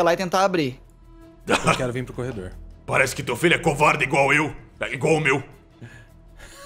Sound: laughs

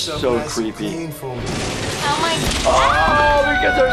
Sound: ceiling cracks; screams

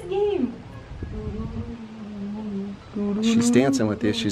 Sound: humming

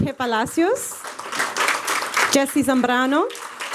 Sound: applause

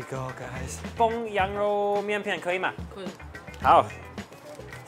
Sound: speaks in Chinese

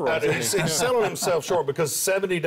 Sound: laughter

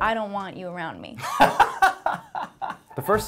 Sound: laughing

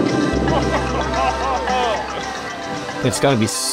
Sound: <i>cheering</i>

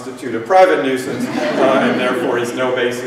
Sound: laughter

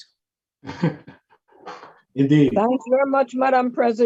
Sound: laughs

